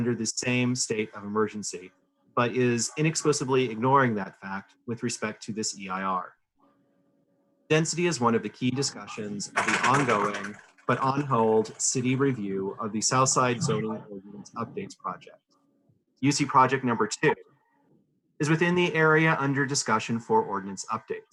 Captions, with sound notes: THE RELEVANT CITY COMMISSIONS AND BOARDS. UC IS UNDER THE SAME STATE OF EMERGENCY, BUT IS INEXPLICABLY IGNORING THAT FACT WITH RESPECT TO THIS EIR. DENSITY IS ONE OF THE KEY DISCUSSIONS OF THE [INTERFERENCE] ONGOING AND ON HOLD CITY REVIEW OF THE SOUTH SIDE BUILDING UPDATES PROJECT. UC PROJECT NO. 2, WITHIN THE